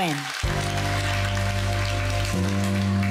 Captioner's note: crowd applauds